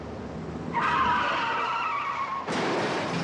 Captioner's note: wheels screeching; car crashing